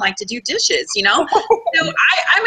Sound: laughter

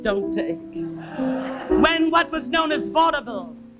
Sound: audience laughs

